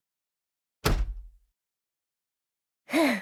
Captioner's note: door closing